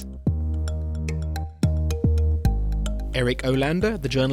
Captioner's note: voiceover